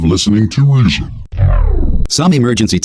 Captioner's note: recording shorts out